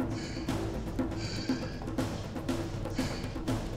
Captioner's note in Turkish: Nefes sesi